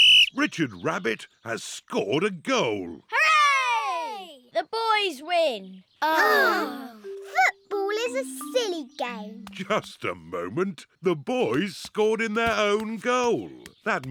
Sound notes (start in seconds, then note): 0.0 blows whistle; 6.1 all sigh